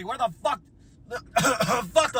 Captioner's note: cough